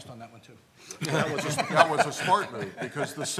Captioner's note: laughs